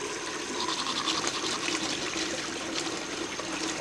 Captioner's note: sound of brushing teeth